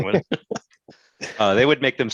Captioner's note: both laughing